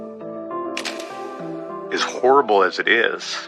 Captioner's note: shutter clicking